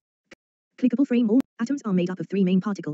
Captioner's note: TTS Voice